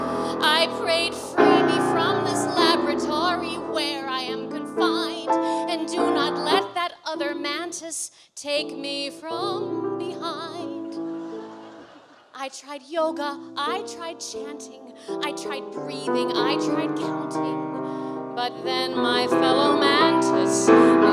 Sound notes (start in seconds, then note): 11.0 laughter